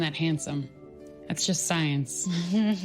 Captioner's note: chuckling